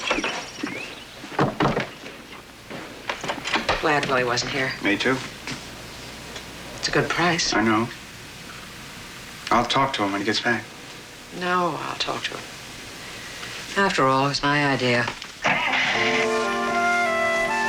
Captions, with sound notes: I'm glad Wlie wasn't here. Me too. It's a good price. I know. I'll talk to him when hgets back. No, I'll talk toim. After all, it was my idea. (ENGINE STARTS)